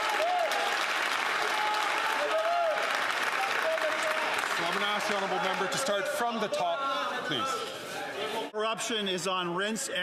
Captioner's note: some Applause